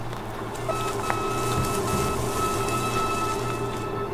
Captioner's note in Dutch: hijgend vreemd geluid van ver weg; echoënde hoge piep van ver weg